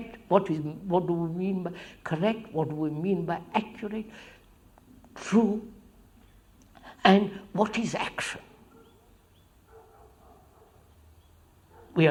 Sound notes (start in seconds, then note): none